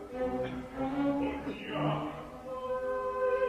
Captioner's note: sottovoce